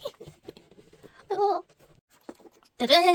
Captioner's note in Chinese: 尬笑（=´∇｀=）